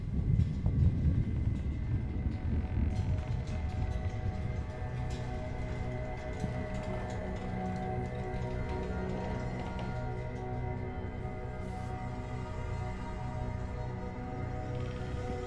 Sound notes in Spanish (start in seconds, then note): 1.6 Crujido